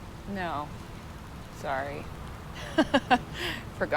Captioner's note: laughs